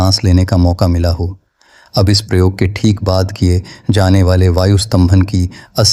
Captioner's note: spiritual breathing